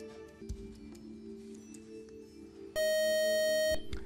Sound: time-out buzzer

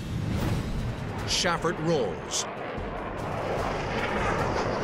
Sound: jet engine noises

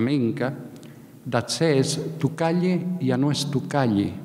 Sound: speaking in a foreign language

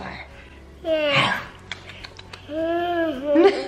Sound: chomps and nibbles; softly chuckles; laughs

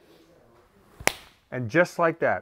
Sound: smack

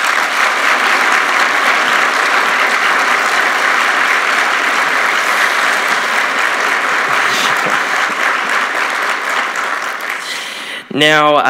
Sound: applause

